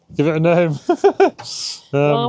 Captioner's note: laughing